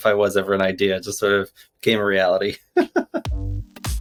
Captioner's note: laughs; chill electronic music